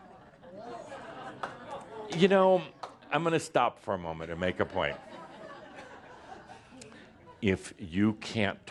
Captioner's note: a few chuckles, as Adamus pauses; more chuckles